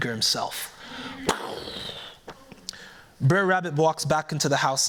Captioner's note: mimics gunshot